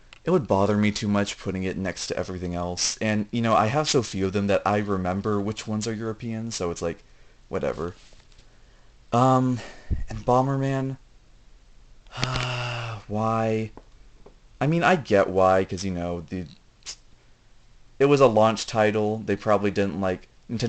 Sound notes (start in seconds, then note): 12.1 sigh